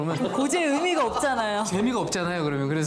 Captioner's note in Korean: ㅎㅎㅎㅎㅎㅎㅎ